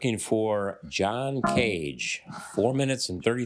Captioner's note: failure chime